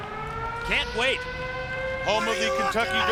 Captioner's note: air sirens blare